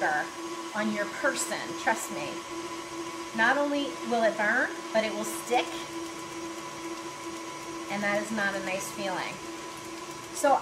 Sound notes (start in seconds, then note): none